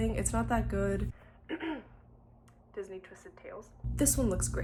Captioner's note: clears throat